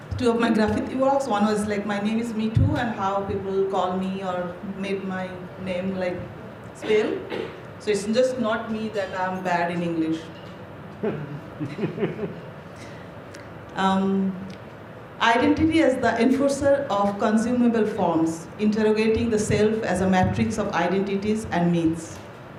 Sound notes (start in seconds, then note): 10.9 chuckles